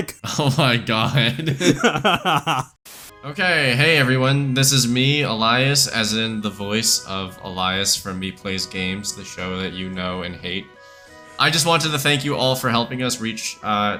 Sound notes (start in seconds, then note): 3.4 both laugh; 3.4 static